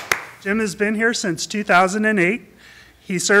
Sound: applause

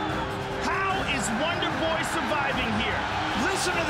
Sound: cheering

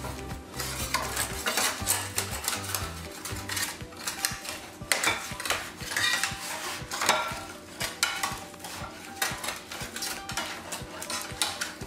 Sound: scraping sounds

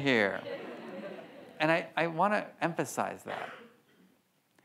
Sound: audience laughs

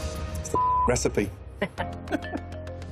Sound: laughter

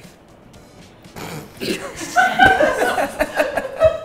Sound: laughter

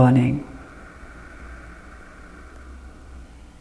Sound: exhales

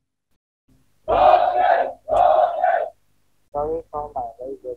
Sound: protestors ranting

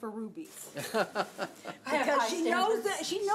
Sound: laughs

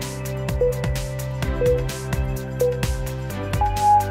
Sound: timer beeping

